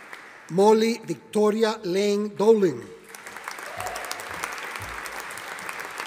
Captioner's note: audience applauding